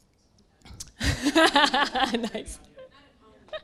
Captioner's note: laughing loudly